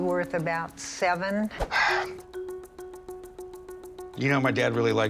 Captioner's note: exhales